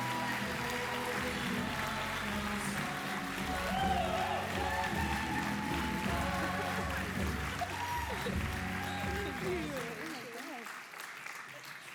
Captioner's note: applause